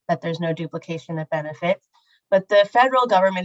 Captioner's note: none